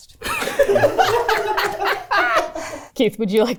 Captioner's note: everyone laughing